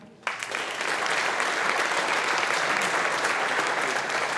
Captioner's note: audience applauding